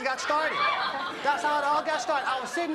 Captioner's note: audience laughs